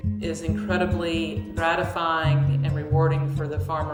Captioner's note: none